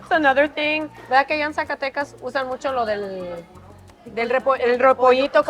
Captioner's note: speaks Spanish